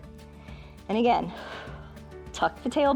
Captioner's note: exhales